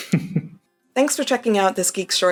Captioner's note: laughter